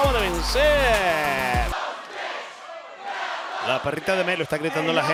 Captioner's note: applause